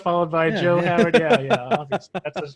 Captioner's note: laughs